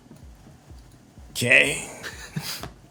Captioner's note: laughter